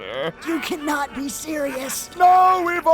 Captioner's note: Kuradeel laughing like a maniac